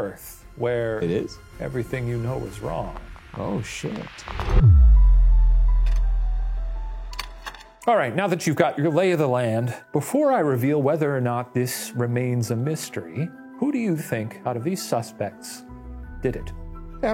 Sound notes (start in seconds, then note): 0.0 eerie music; 4.4 suspenseful music; 7.1 slide projector clicks